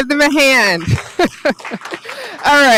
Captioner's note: laughs